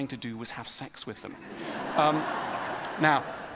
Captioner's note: ضحك